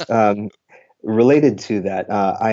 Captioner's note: laughs